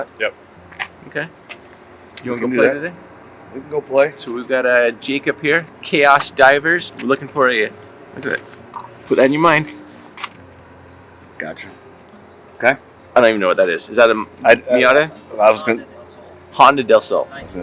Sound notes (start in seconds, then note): 14.4 stammering